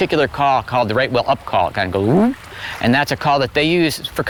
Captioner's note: imitates whale